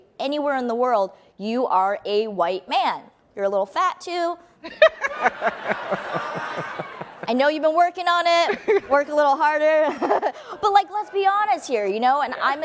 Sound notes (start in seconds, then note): 4.7 laughing; 8.4 laughs